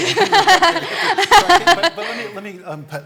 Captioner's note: laughter